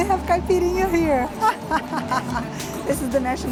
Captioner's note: laughs